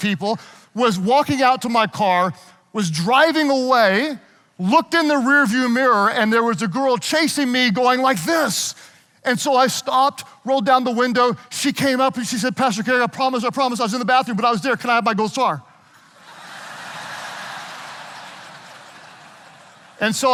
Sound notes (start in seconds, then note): 16.0 audience laughing